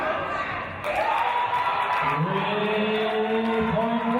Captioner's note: cheers from audience